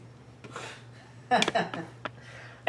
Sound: laughs

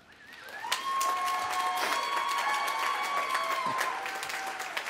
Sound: applause

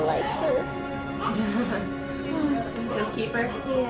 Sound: laughs

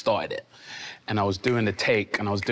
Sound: snapping repeatedly

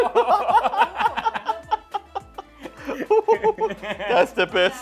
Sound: laughs

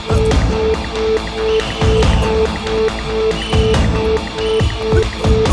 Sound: whistle blows

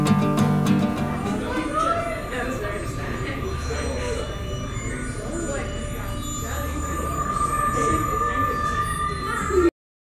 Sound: space ship sounds with people talking unintelligibly in the background

